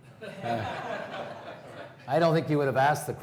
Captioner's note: laughing